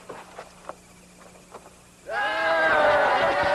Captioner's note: laughter